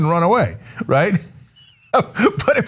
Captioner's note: laugh